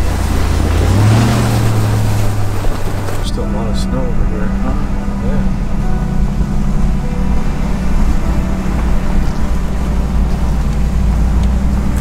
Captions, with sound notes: There's still a lot of snow over here. (engine humming) (bright music)